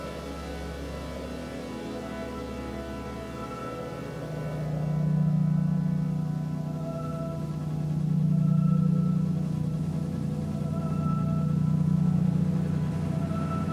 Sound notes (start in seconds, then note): 3.4 high-pitched sounds